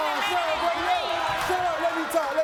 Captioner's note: audience cheers